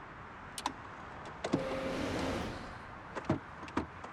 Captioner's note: wind blows